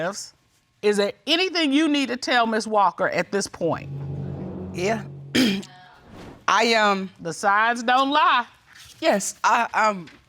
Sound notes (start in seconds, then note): 5.4 ahem